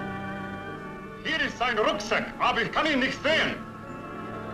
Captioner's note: speaking German